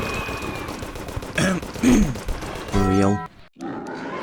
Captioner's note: cough cough